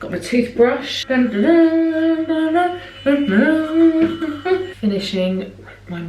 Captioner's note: singing; electric boothbrush whirs